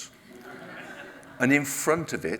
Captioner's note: audience laughs